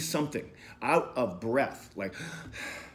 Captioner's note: gasping